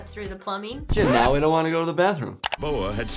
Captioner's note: record scratching